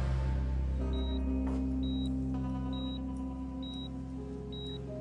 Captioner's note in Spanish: Bip de el monitor